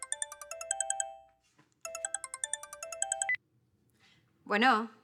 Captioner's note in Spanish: Suena el celular